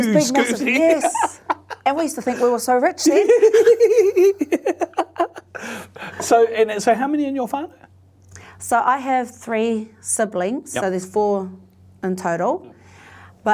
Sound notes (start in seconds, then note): 3.0 both laughing